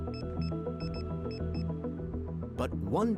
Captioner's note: device beeping